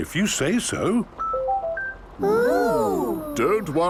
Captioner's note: car chiming